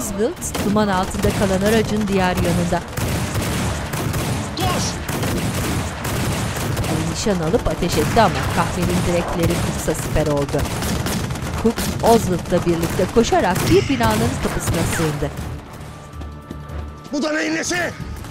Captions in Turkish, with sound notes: (Silah sesleri) Koş! (Silah sesleri) Bu da neyin nesi?